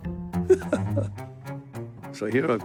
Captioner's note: chuckles